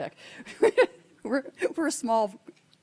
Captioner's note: laughing